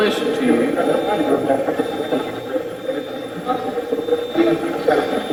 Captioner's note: Steve's Box chatters